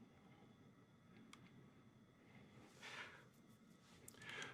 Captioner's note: computer mouse clicking